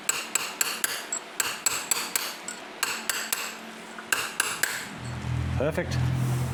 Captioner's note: metal clanking